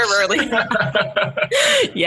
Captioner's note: laughing